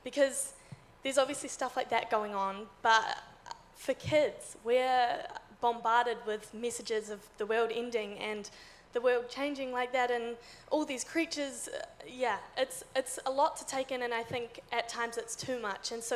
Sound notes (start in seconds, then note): none